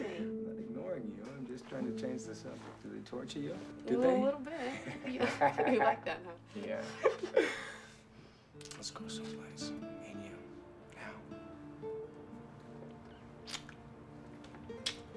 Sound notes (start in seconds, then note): 4.5 laughing